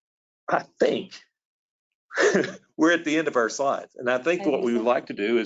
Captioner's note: laughs